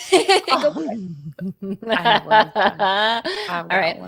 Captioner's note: laughing; laughs